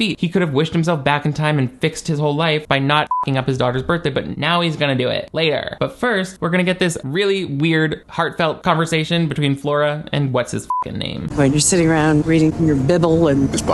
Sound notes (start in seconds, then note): 3.0 beep; 10.6 beep